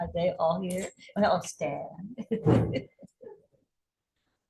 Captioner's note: laughs